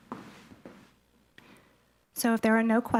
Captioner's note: footsteps receding